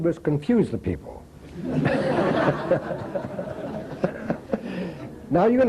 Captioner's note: laughter